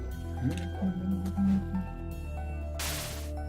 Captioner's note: humming along